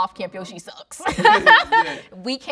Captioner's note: both laughing